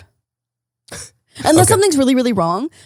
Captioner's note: chuckles